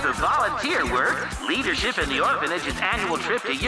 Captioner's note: cheering